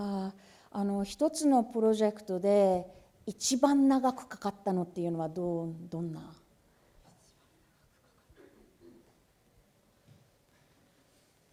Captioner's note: speaking japanese